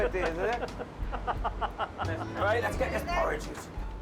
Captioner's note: laughing